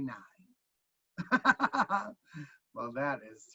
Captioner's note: laughing